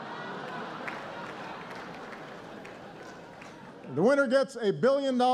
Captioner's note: laughter